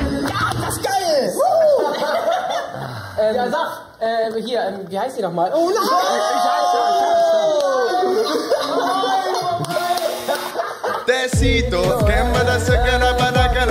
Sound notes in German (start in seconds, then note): 0.0 Lachen; 5.6 Durcheinanderrufen; 7.8 Gelächter